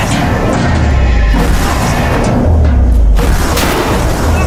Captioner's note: guns firing